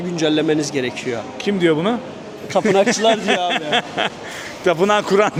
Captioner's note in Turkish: kahkaha